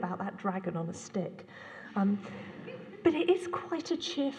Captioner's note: laughter